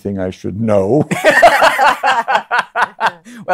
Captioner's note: laughter